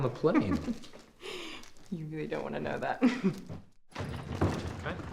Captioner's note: chuckles